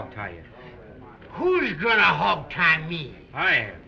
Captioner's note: slurring